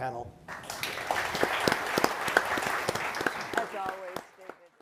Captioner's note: crowd applauding